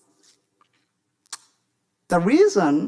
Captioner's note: smacks lips